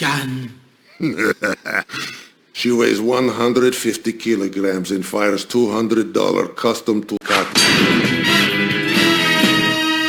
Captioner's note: laugh